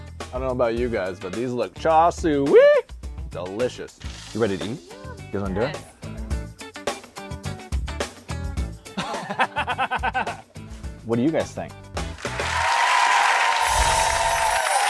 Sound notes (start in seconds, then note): 9.0 laughs; 12.1 applause